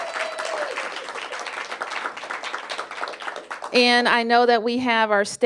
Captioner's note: cheers and applause